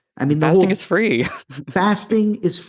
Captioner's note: laughs